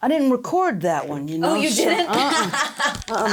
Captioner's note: laughs